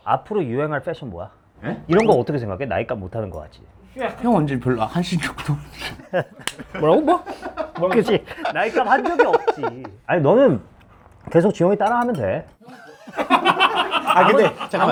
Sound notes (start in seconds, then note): 6.4 clap